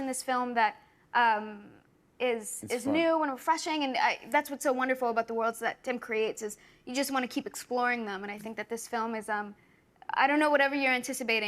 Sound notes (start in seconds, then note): none